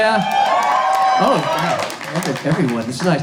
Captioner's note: crowd cheering